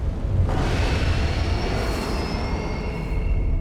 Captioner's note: dinosaurs screeching and rumbling